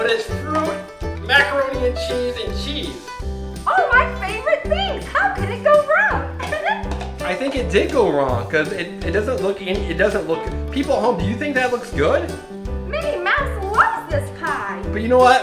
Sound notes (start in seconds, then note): 6.4 giggles